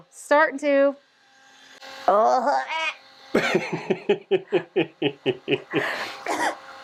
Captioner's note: coughing; laughing